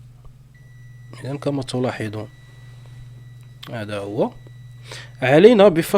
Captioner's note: continuity beeps